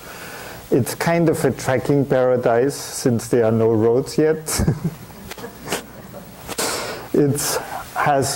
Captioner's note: chuckling; audience chuckles